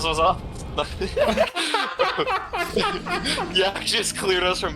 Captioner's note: both laugh